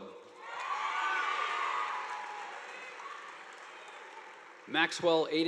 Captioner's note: audience applauding